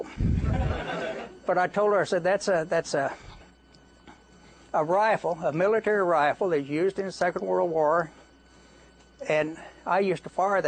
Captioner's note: laughter